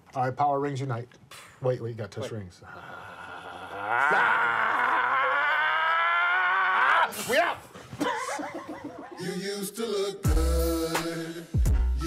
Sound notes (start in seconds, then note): 2.6 both groan; 7.7 both laugh; 9.1 hip-hop music